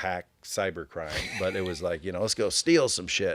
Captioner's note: laughing